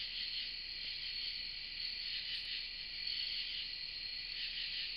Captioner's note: crickets chirping